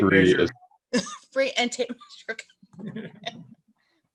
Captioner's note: laughs; laughs